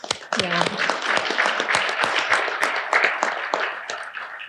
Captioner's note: audience applauding